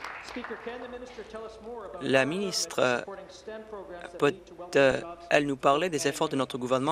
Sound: applause

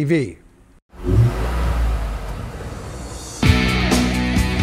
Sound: engine revving; rock music

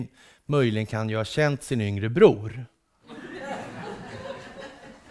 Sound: laughter

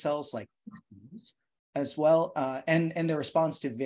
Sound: murmurs

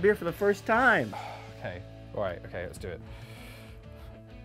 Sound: sighs

